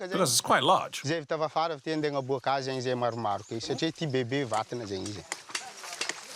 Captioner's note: Malagasy spoken audio